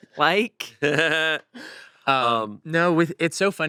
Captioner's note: chuckles